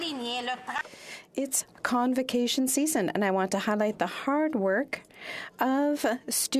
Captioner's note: speaking French